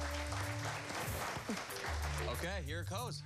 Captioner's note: cheers and applause